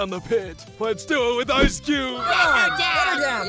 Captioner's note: ice cube cries